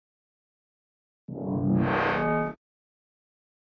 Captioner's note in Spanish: Sonido metálico